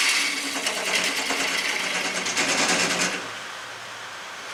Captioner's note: noise of woodturning lathe and woodturning